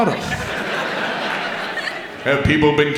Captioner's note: audience laughs